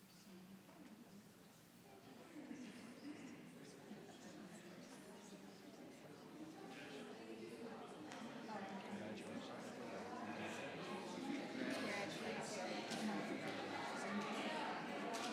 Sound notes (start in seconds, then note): 8.6 people chattering